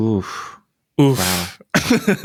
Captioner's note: laughs